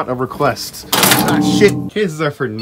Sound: side panel crashes to the ground

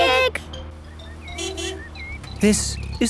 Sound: honking

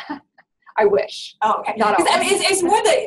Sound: voiceover

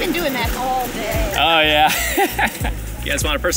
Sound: laughs

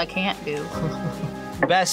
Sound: laughs

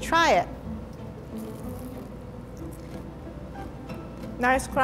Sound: crunching

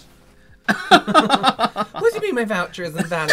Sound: disgusted laughter

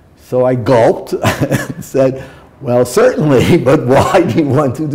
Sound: chuckle

